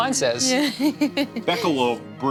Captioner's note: laughs